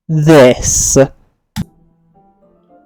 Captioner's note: atomic bomb click